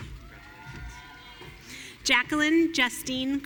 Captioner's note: audience cheering